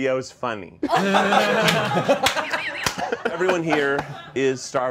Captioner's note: all laughing